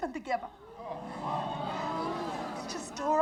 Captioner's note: audience groans